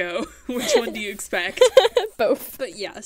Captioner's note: hosts laugh